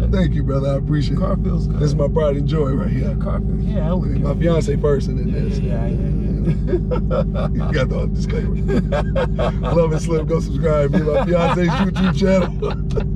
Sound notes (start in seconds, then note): 7.0 laughing; 9.3 laughing